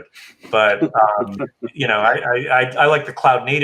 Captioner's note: chuckling